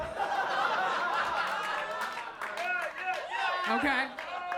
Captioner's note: audience laughs